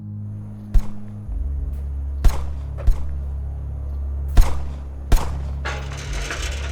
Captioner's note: tense music; guns firing